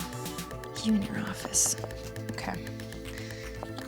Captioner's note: murmurs and whispers